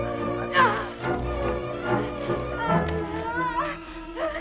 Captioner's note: Hundra grunts